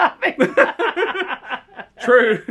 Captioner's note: both laugh